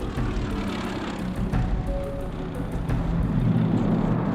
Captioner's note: plane engine roaring